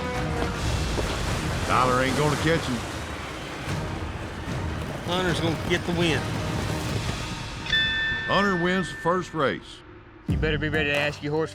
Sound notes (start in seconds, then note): 0.0 fast hoofbeats; 7.6 rings bell